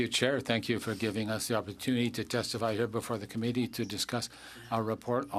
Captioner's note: speaking French